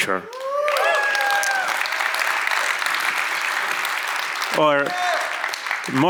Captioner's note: audience cheers and applauds